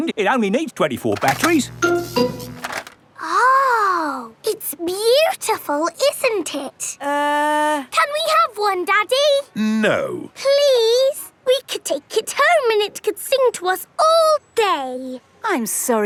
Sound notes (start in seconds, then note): 1.2 buzzing